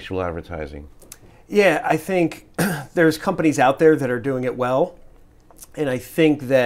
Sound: cough

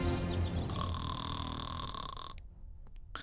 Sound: snoring

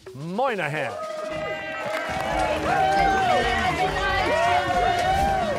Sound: cheers and applause

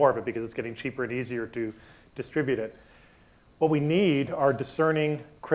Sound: none

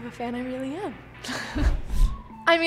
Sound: chuckling

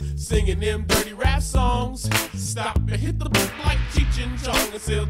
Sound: gongs

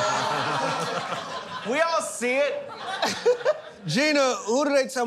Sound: laughter; laughs

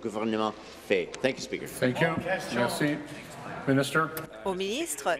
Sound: speaking in French

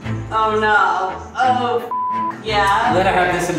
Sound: beep

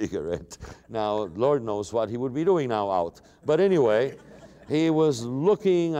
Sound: laughter

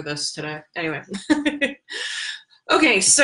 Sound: chuckling

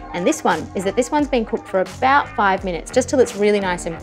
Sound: none

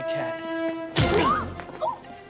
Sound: grunting

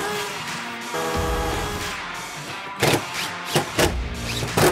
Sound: mechanical whirring

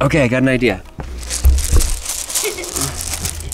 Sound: rocks rattling; laughs

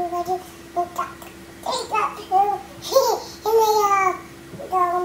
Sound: laughs

